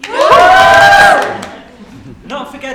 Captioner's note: cheer